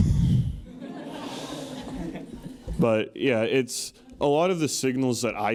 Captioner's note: laugh